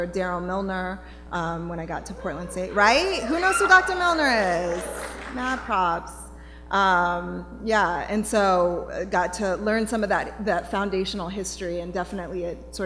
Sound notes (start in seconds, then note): 2.0 cheering; 5.7 applause